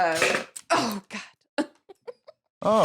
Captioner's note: laughs